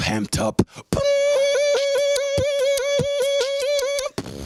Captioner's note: beatboxing